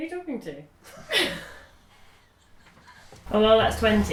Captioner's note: laughs